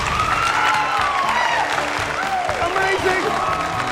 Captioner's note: cheers and applause